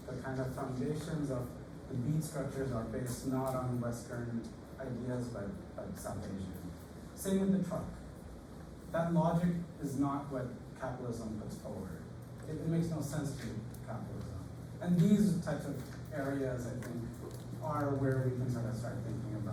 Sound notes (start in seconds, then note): none